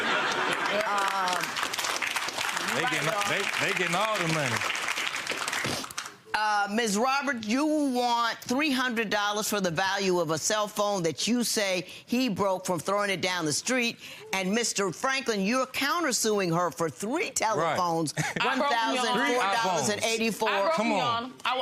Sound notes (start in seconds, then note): 0.0 crowd laughing; 0.0 crowd clapping